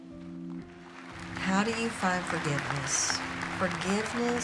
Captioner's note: audience applauding